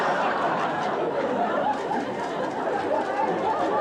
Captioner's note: audience laughs